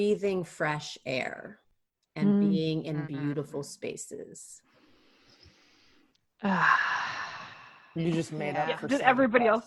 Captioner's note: deep breath